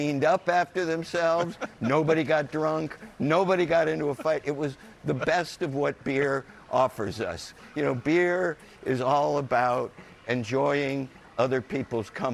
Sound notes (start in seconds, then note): 5.4 laughter